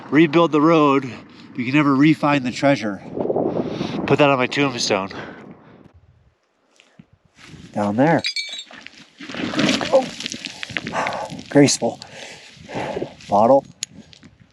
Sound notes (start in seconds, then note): 9.8 grunts